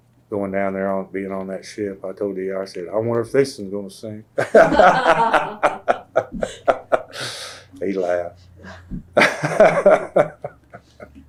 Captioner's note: laughter